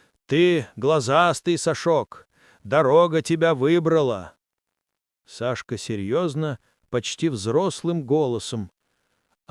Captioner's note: seriously, in an almost adult voice